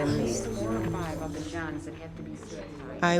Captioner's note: people talking in background